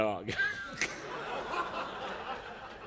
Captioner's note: laughter